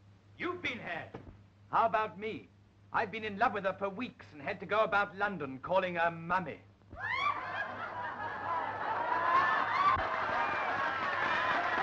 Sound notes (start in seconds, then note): 7.3 laughter; 8.9 applause